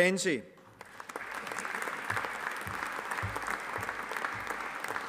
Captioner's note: audience applauding